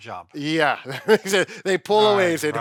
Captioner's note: laughing